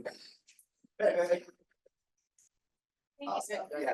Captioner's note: speaking faintly